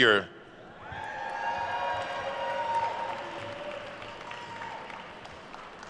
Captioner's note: attendees cheering and applauding